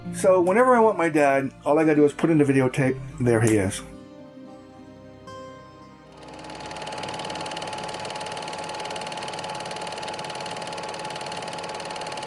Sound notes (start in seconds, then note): 6.1 film projector whirring